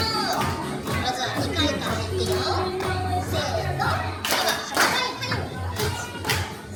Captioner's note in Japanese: パンパン